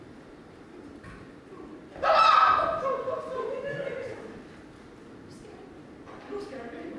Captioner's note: Glinda and Gail scream